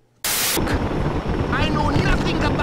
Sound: static

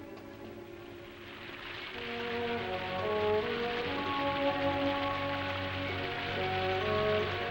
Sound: light music; rain pouring

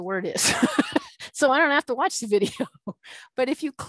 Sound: laughing

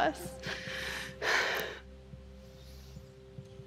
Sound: sighs

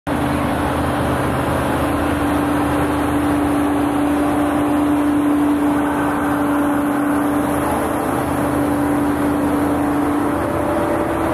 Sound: tractor Noises

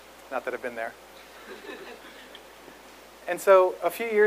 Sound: audience laughs

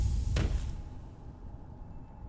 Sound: thud

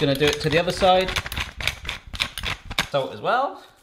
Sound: grinding

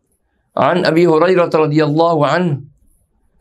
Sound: arabic

